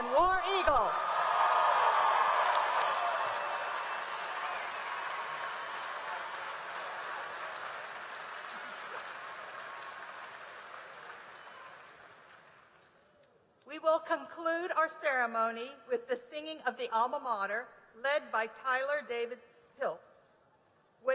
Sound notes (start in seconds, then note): 0.6 applause and cheering